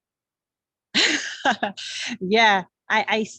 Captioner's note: laughs